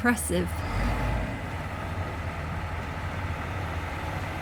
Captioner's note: loud truck noises